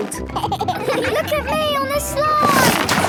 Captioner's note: giggles